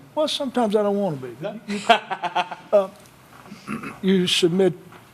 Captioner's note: laughter